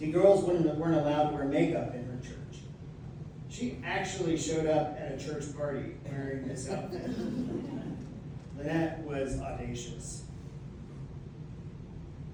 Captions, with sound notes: See, girls wouldn't weren't allowed to wear makeup in her church. She actually showed up at a church party wearing this outfit. [laughter] Lynette was audacious.